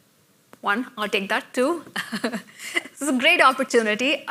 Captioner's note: laughs